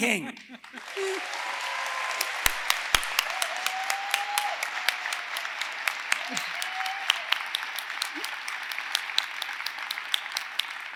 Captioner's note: applause